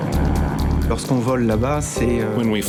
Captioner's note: speaking in foreign language